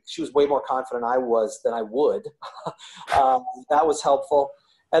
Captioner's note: laughs